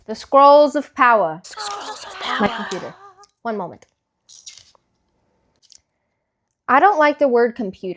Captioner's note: Echoes: "The Scrolls of Power."